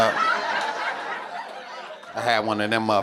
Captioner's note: audience laughing